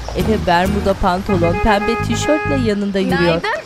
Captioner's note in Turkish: Korna sesi